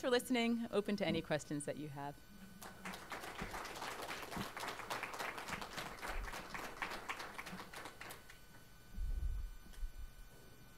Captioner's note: audience applause